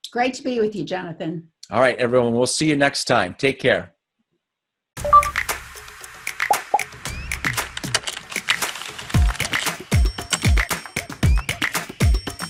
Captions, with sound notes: - Great to be with you, Jonathan. - All right, everyone. We'll see you next time. Take care. (soft beeps) (fast typing) (energetic music)